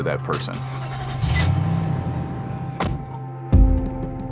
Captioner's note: engine revs